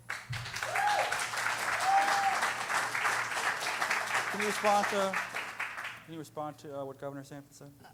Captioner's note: cheering